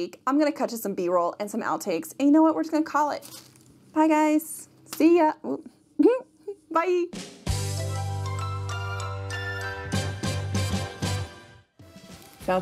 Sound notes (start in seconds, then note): 6.0 chuckles; 7.2 bright instrumental music